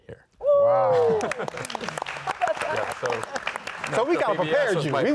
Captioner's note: audience clapping